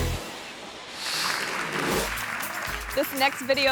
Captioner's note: truck smashes; upbeat instrumental music; screen swooshes; crowd applauds